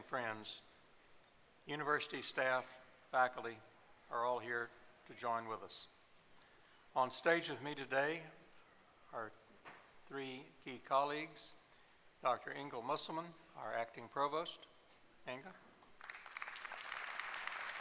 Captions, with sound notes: graduates to be, family and friends, university staff, faculty, are all here to join with us. On stage with me today are three key colleagues, Dr. Inga Musselman, our acting provost. [applause]